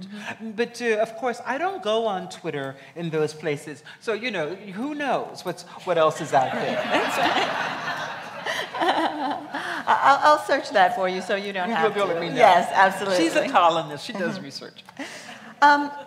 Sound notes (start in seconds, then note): 6.2 laughs